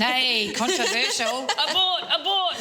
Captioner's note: laughs